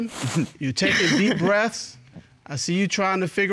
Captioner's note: chuckles